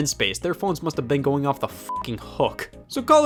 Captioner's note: beep